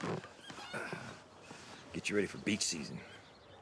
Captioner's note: groans